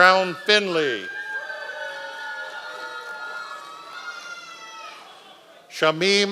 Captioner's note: members of the audience cheering